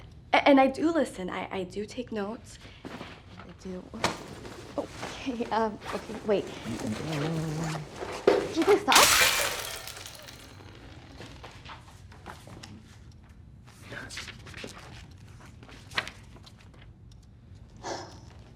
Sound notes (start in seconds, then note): 10.0 pencils snap